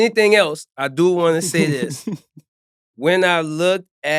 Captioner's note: laughing